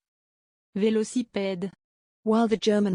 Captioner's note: French